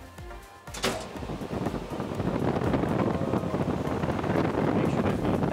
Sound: machine blowing air

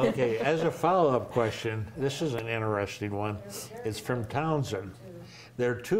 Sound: laughter

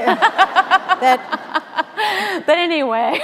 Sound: laughing

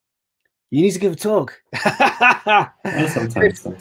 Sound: chuckling

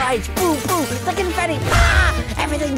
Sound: glass shattering sound effect; party hooter sound

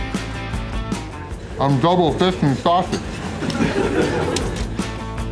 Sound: crowd laughter

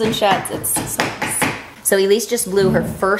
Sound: hammer pounding

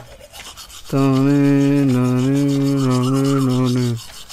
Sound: humming

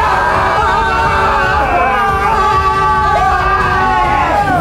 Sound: screams

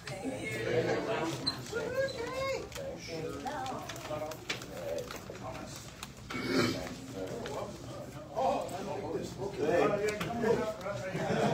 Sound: indistinct chatter

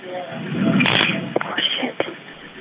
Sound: bystanders muttering; taser buzzing

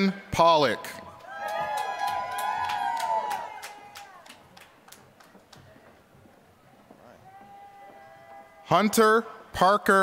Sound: applause

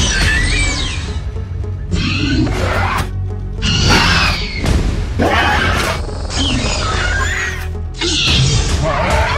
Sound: raptor Sounds; Dilophosaurus Sounds

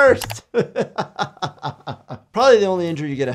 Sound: laughs

